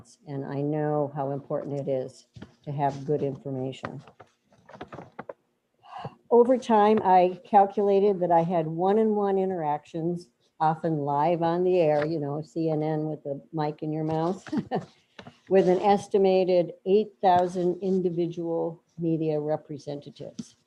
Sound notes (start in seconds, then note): 14.4 laughs